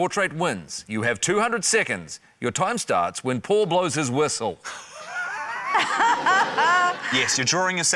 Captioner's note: laughter